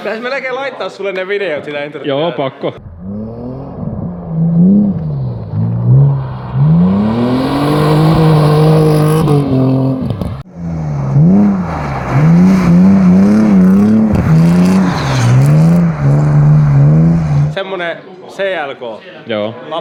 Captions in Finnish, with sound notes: Pitäis melkein laittaa sulle ne videot siitä entry- Joo, pakko. [moottorin ääni] -Semmonen CLK. -Joo.